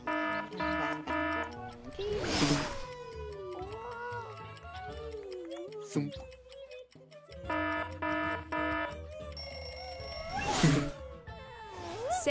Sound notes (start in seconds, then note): 0.0 alarm ringing; 1.9 gentle buzzing; 1.9 upbeat music; 7.4 alarm ringing; 7.5 bell ringing